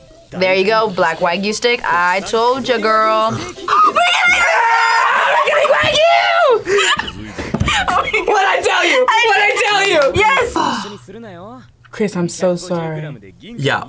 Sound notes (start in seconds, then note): 3.6 screams; 6.5 both laugh; 10.5 gasps